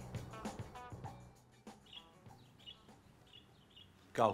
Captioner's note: birds chirping